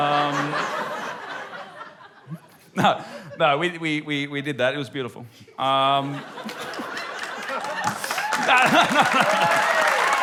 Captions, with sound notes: (LAUGHTER) No. No, we did that. It was beautiful. - Um... - (LAUGHTER) - (WHOOPING AND APPLAUSE) - (LAUGHS) No, no...